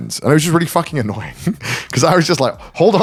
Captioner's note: chuckles